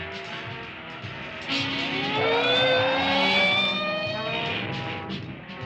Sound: police siren

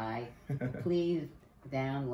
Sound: chuckles

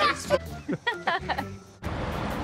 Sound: laughing

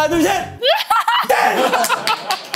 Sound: laughing

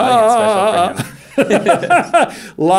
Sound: Stephen shouting and laughing

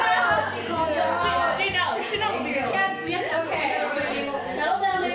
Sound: excited chatter

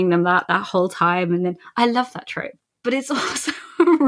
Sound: laughing

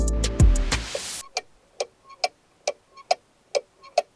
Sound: ticking sound

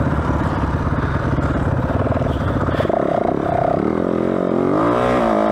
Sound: engine revving

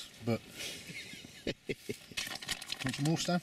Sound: laughs

